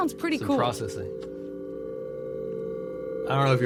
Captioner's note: whirring tone